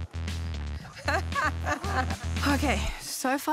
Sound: laughs

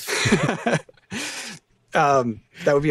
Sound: laughter

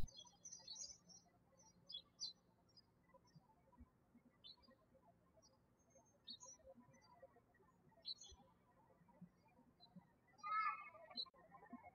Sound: birds chirping

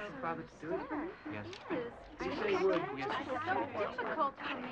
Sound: kids chattering

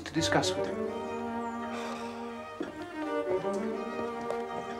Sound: slGHS

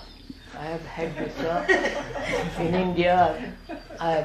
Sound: laughter

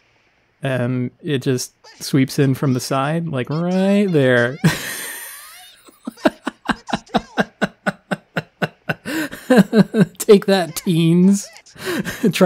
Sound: laughs

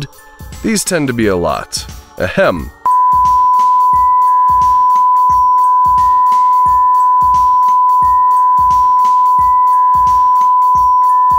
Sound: insert a long string of beeping and some dolphin noises

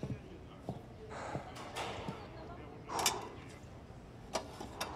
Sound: breathing heavily

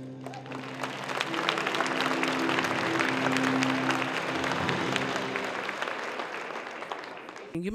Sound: applause

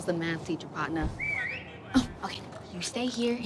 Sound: person whistles

